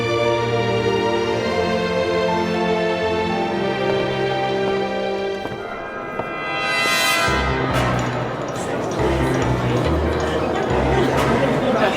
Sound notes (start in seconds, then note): 0.1 dramatic music continues; 6.0 dramatic music; 6.0 group chattering